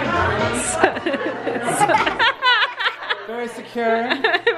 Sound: laughing

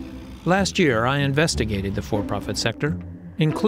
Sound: voice-over

